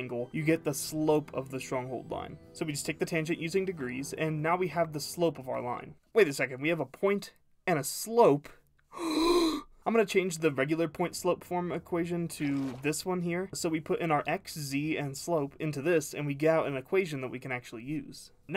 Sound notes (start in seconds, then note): 8.9 gasp of excited realization